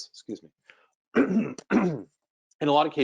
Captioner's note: clears throat